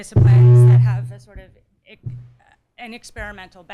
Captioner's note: speaker blares